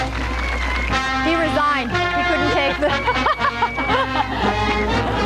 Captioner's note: laughter